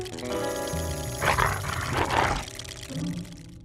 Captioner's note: growls